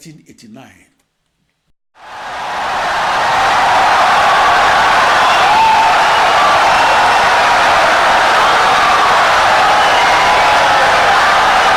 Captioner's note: wild applause and cheering for 17 seconds